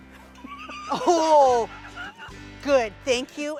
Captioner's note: laughing